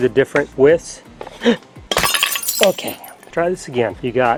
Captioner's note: glass shatters